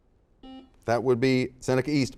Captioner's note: buzzer dings